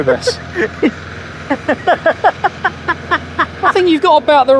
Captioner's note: laughing